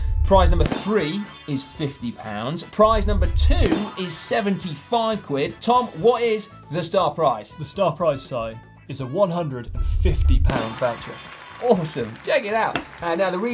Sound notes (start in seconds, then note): 0.5 graphic pops and tinkles; 3.5 graphic pops and tinkles; 10.4 graphic pops and tinkles; 10.7 audience applauds